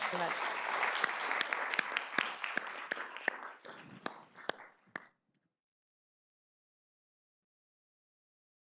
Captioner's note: audience applauds